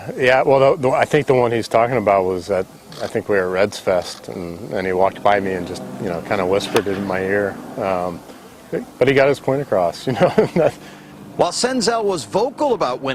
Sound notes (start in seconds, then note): 10.0 laughther